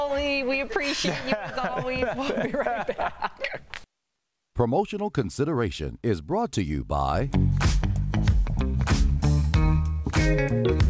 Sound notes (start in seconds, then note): 4.4 laughter